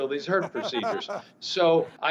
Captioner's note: laughing